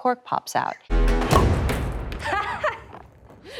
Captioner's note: battle smashes